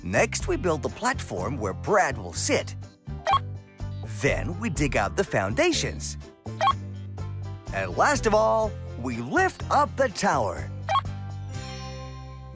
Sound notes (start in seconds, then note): 2.8 beep; 6.3 beep; 10.9 beep